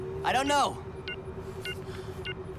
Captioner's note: beeping